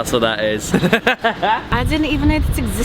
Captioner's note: cackling